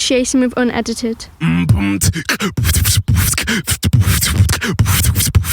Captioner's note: beatboxing